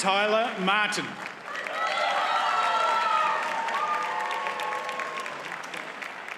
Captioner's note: audience cheers and applauds